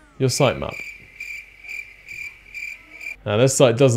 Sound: chirping cricket

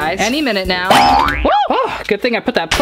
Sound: boing

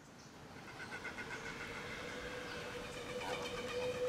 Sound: birds calling

